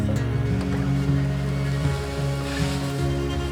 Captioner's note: machinery whirring